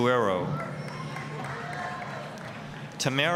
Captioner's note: applause, cheering